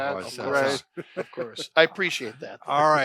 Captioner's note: laughter